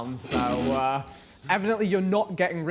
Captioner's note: Tobi scoffs